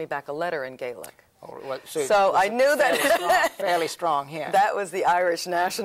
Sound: laughs

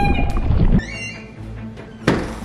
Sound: door creaks open; bubbling

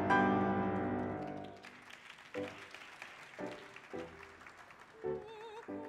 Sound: audience applauding; singing in French continues

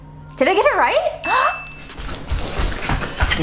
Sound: dinging

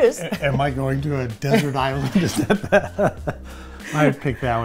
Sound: laughing

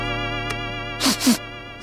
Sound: sniffing

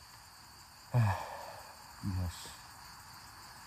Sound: sigh

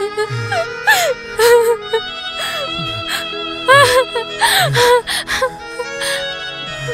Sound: crying

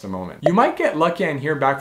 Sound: bubble popping

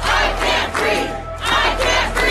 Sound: crowd

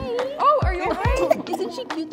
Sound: baby coughing

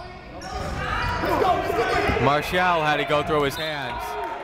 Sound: shouting

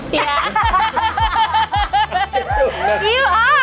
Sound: all laughing

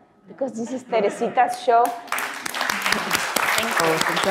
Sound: audience applaud

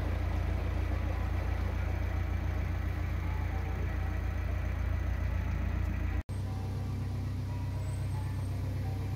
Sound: church Bells Ringing

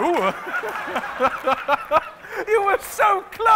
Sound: laughing

